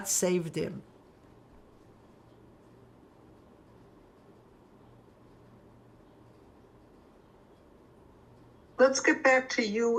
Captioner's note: pauses 8 seconds